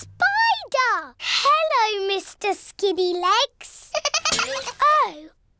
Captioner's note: giggling